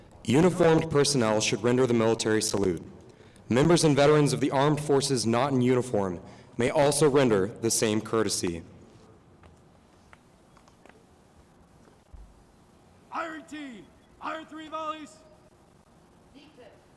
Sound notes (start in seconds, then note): 9.4 silence